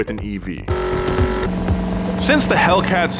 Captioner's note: engine revs